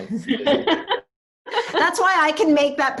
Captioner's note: laughing